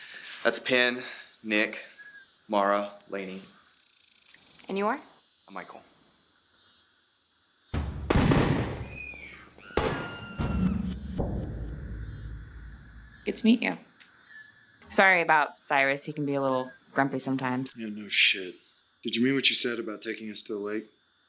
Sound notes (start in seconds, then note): 7.7 gunshots; 8.8 women Screaming